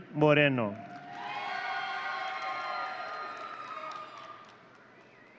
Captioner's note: audience cheering